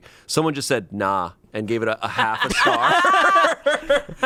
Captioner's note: group laughs